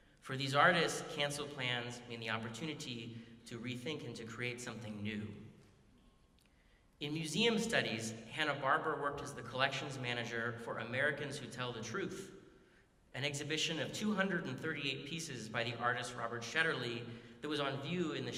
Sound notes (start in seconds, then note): none